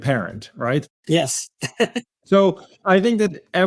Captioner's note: laugh